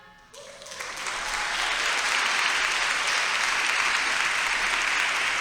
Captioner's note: audience applauds loudly